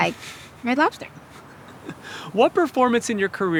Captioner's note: chuckling